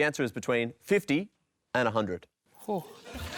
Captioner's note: laughter